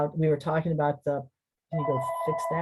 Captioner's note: phone ringing